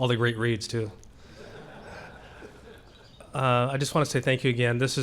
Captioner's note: laughter